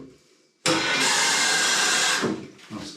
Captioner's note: tap pouring loudly